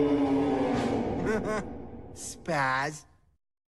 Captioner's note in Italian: risate